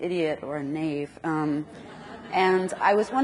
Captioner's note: audience laughs